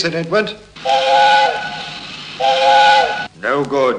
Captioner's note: train whistle